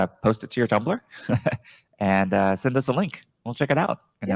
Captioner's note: chuckles